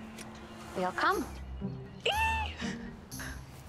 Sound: excited squeal

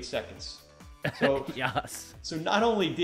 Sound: laughs

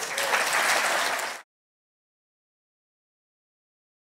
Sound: audience applauds

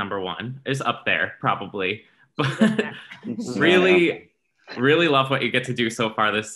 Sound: laughs

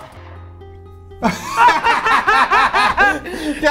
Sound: giggling

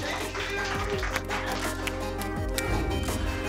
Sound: applause; whoosh

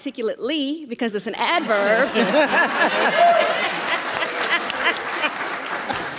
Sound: audience laughing

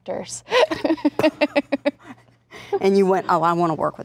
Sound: laughing

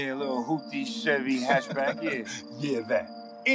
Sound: laughing

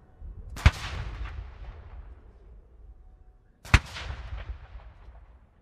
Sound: shellfire continues cracking

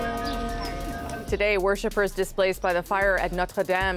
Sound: bells tolling

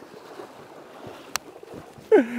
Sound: laughs

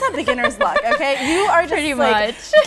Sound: laughs

